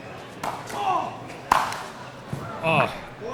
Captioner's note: grunting